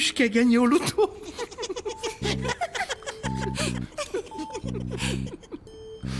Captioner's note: laughs